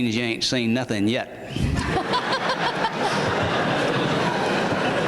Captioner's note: laughter